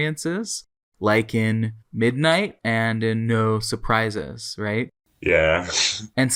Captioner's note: laughs